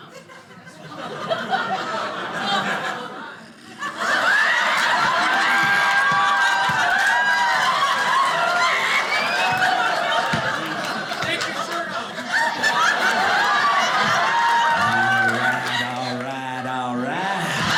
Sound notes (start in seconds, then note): 0.1 audience laughing; 8.1 audience applauding; 12.3 audience applauding